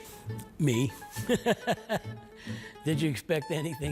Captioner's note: laughing